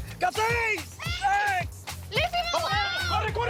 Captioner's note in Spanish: Gritos